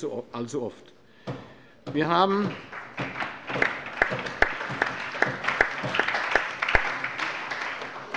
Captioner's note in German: Allgemeiner Beifall